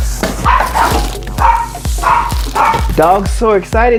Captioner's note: dog barking